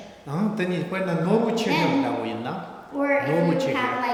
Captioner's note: speaking tibetan